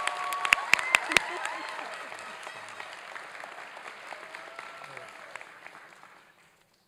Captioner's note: applause and cheering